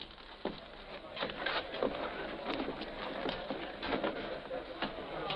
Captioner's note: people chattering